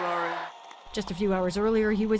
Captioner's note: cheering